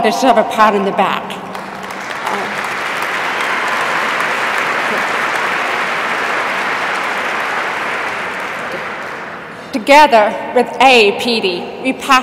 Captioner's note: applause